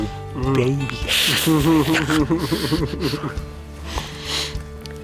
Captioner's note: laughing